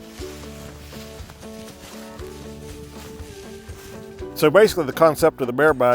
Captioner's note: upbeat music; leaves crunching; upbeat music